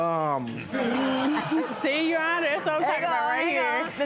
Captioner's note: laughter